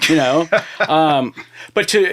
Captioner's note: laughing